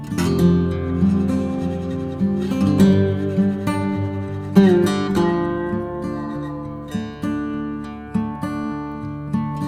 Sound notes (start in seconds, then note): 5.6 haha